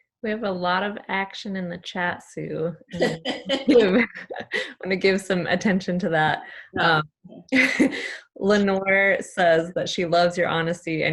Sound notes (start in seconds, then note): 2.9 laughing